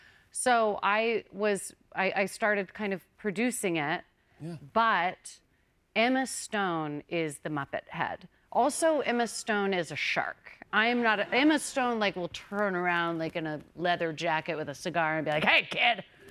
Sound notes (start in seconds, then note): none